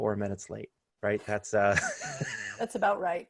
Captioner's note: laughter